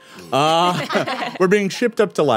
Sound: all chuckle

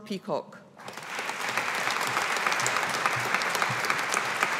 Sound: audience applauding

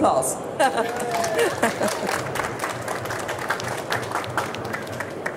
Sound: chuckles; audience applauds

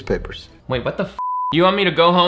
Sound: beep

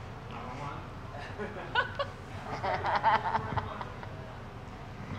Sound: people laughing

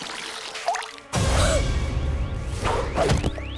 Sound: gasping

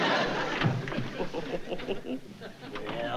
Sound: laughs

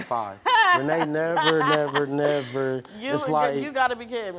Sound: laughs

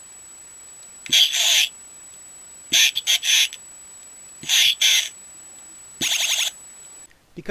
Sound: talking sound effects

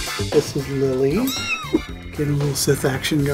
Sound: meow

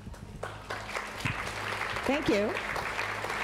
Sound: applause

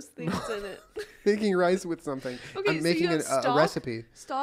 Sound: wheeze

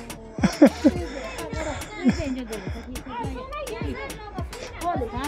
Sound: talking in local language

